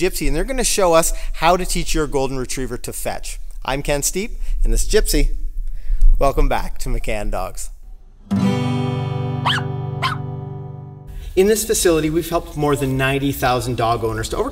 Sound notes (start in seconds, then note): 8.0 guitar strums; 9.4 puppy barks